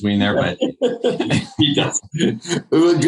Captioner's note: laughing